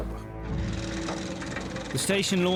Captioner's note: truck engine revving